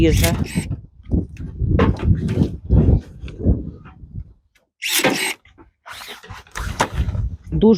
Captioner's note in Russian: Звук секатора и улицы